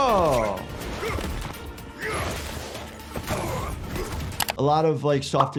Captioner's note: characters grunting